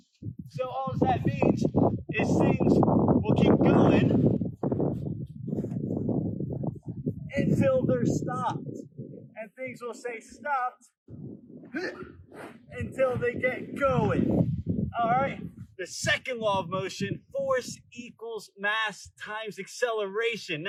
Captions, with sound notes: So all that means is things will keep going... until they're stopped. And things will stay stopped [grunt] Until they get going. Alright, the second law of motion: force equals mass times acceleration.